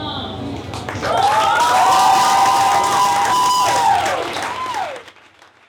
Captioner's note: audience applauds and cheers